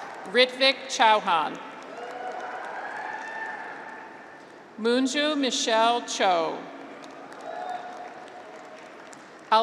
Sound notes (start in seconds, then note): 0.0 graduates cheer; 1.8 graduates cheer; 6.8 audience applauds